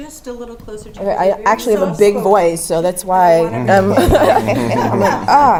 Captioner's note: laugh